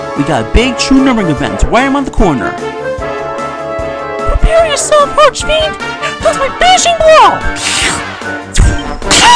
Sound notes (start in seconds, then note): 7.6 slurp